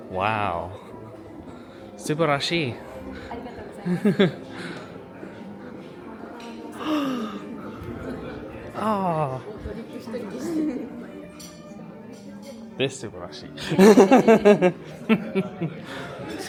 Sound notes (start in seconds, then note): 3.2 laughs; 6.7 gasps; 13.6 laughs